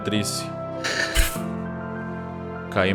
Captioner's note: pff